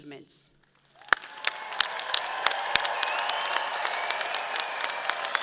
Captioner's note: audience applauds; people cheer